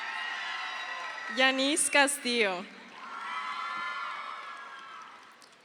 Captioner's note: crowd cheers